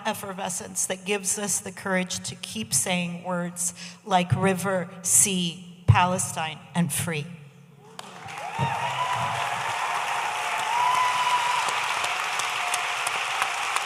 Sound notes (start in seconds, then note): 7.9 audience applauding